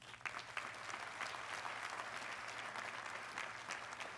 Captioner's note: audience clapping